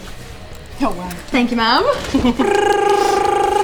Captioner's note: drum rolling; laughing